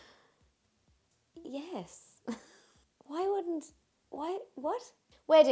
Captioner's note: laughs